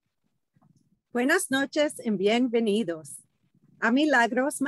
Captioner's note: speaking in a foreign language